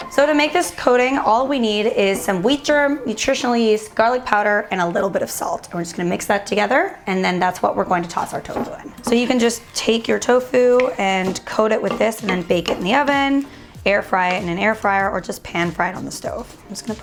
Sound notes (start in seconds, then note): 7.7 rustling